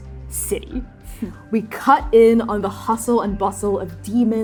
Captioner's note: scoffing